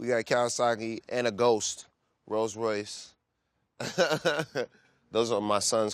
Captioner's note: laughs